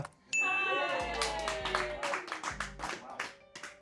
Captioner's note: bell dings; people applaud